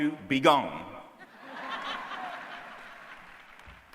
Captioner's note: applause